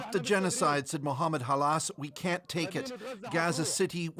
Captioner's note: speaking Alternate Language